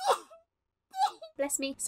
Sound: sneezes; sneezes again

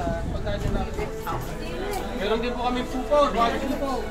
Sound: people conversing

